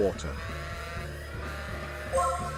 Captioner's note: alarm sounding